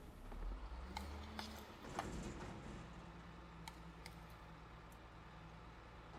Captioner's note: garbage truck banging